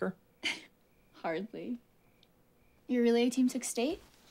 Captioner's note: giggles